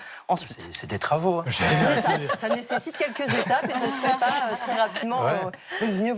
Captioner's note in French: rires